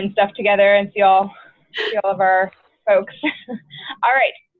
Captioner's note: chuckles